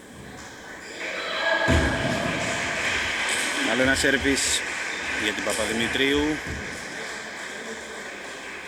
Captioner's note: applause